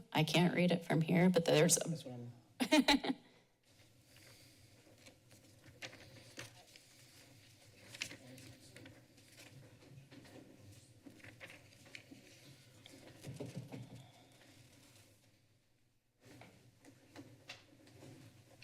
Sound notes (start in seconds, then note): 2.6 laughs